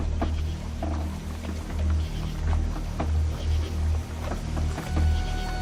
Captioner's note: boat creaking